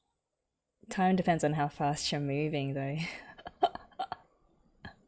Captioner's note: laughs